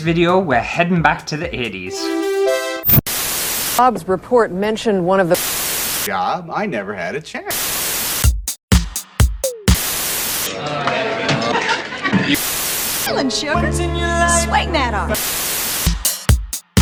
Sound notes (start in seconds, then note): 1.0 TV Flickering; 2.3 80's Music